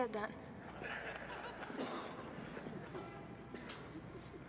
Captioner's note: group laughing